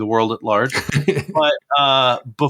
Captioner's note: laughs